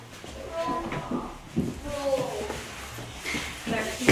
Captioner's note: children talking